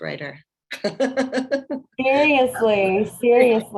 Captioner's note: laughter